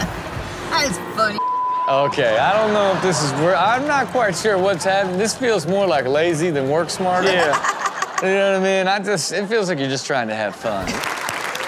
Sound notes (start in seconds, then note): 1.3 beep; 7.2 laughs; 10.6 audience applauds